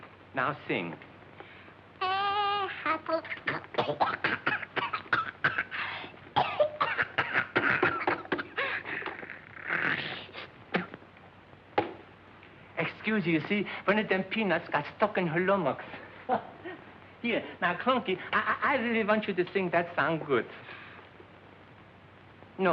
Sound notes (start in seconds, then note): 1.9 singing; 3.1 coughing